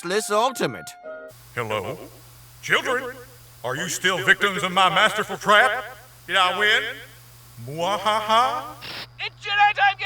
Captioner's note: echoing